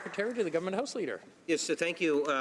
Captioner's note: some Applause